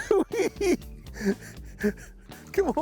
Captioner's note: laughing